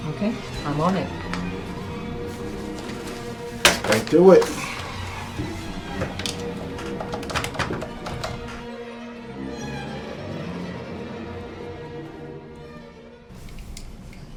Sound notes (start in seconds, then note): 2.3 papers thudding; 6.0 phone dials clacking; 10.0 intense dramatic music continues